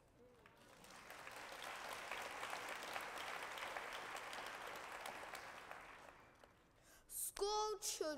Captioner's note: applause